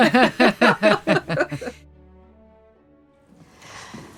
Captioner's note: group laughing